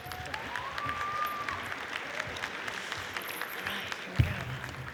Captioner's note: audience applauds